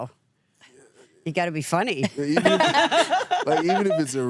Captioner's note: laughs